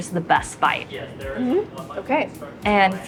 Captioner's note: agreeing